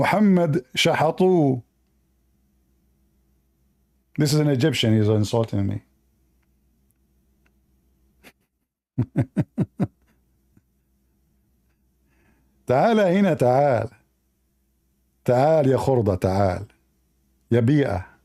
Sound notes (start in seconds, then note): 9.0 Ketawa